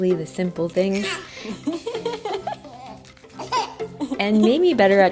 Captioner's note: laughing